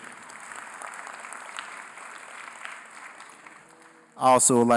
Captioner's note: applause